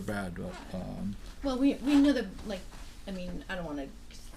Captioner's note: voiceover